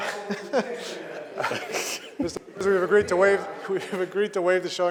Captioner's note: laughter